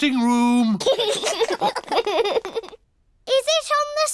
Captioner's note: laughter